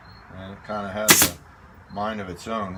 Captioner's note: nailer operating